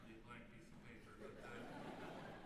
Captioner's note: laughter